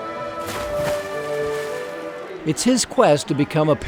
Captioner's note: water splashes